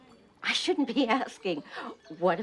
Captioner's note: laughs